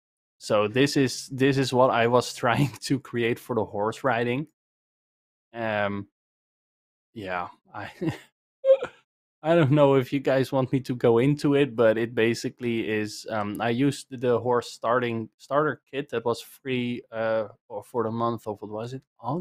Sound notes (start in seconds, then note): 8.7 laughs